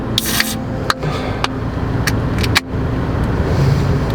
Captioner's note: beer can popping